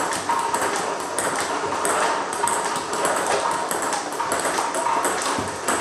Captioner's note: ball ping pong hitting continues